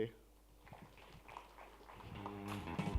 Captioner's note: applause